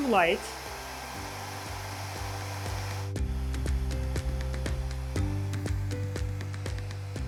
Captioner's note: upbeat music continues; blow-dryer whirring